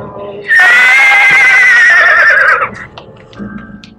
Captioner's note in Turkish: At kişnemesi